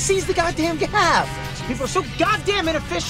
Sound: cars honking

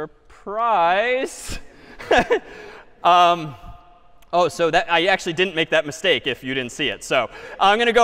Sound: laughs

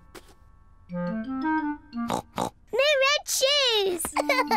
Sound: oinks; laughs

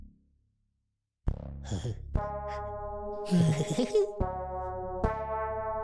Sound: snickers

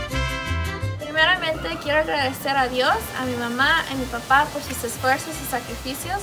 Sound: speaks in foreign language

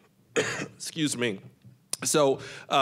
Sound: coughing

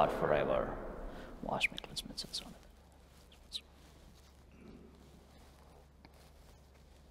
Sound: whispering

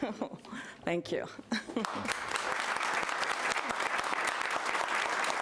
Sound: audience applauds

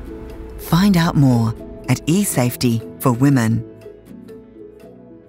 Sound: voiceover

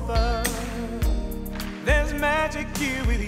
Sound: audience clapping rhythmically

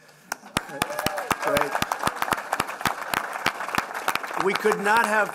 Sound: applause

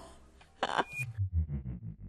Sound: laughs

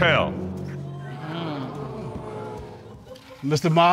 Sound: audience gasp

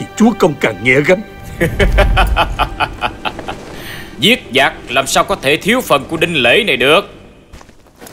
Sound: laughing

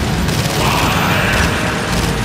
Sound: growling

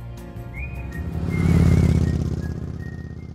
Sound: lively music; motorbike roaring

